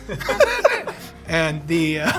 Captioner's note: laughing